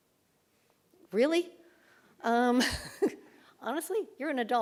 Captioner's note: laughs